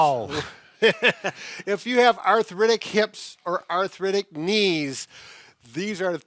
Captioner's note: laughs